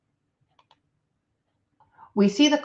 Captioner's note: computer mouse clicks